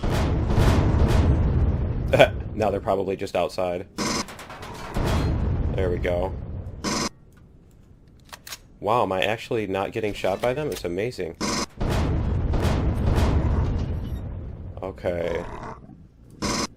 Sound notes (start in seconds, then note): 0.0 pulse rifle; 0.0 explosions; 1.7 laughs; 5.2 explosion; 7.7 reloading; 14.6 explosions